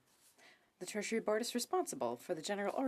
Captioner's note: speaking French